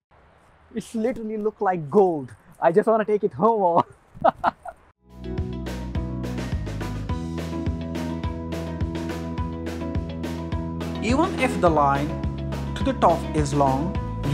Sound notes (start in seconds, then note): 4.2 laughter